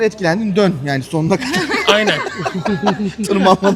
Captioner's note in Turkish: kahkaha